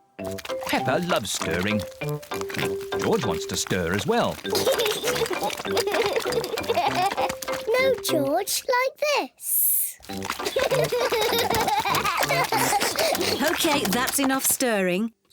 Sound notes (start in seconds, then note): 0.4 oinks; 4.3 giggles; 10.2 both giggle